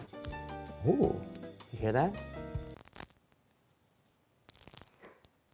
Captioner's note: crumpet crunching